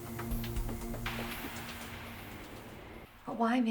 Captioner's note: crickets chirping